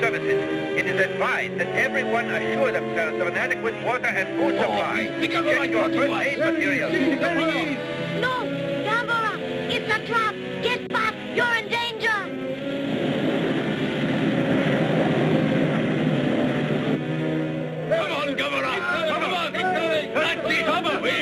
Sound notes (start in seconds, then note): 0.3 radio Announcer; 5.1 men chattering